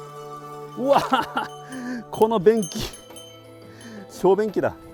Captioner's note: laughs